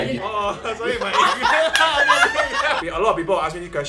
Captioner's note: all laughing